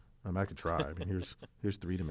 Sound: laugh

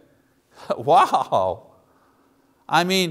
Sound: laughs

